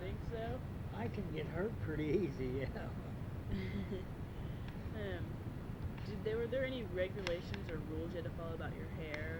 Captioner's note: chuckles